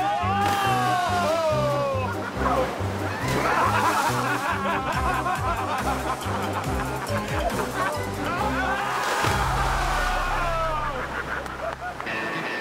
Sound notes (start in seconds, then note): 3.0 laughs